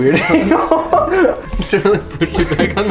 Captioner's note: chuckles